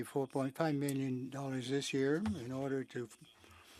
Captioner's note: speaking French